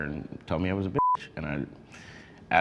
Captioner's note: beep